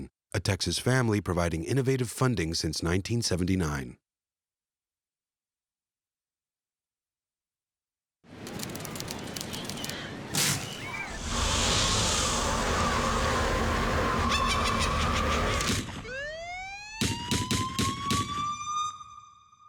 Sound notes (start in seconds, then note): 8.4 typing; 11.0 wind blowing; 12.7 witch laughing; 15.8 sirens wailing; 17.0 shots fired